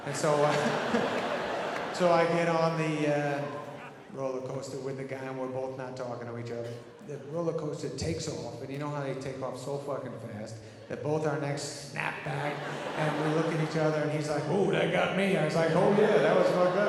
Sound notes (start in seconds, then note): 0.0 audience laughing; 0.2 Adam laughs